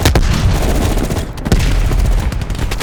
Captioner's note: gun fires